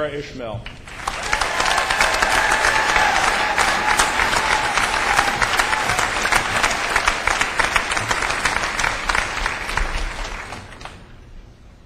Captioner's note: cheers and applause